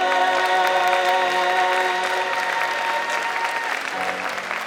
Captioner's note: audience applauding